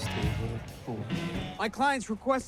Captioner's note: Orozco speaking Spanish